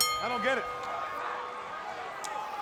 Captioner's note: bell ringing